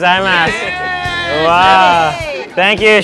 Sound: all cheering

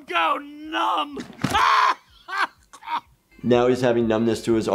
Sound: laughs

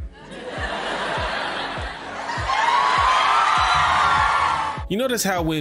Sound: audience cheers

